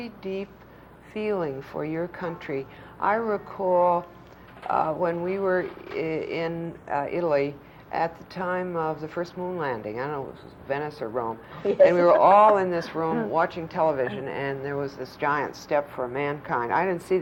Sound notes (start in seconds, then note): 11.5 laughs